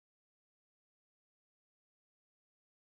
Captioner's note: none